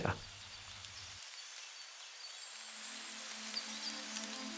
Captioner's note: birds chirping